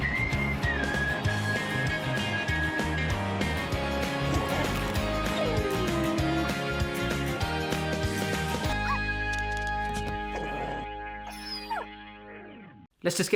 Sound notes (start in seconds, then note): 0.1 upbeat cheerful music; 3.8 whining; 4.2 crunching; 10.0 whining; 10.3 barking